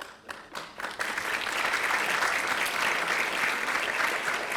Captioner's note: audience applauding